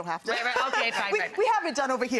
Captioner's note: woman laughs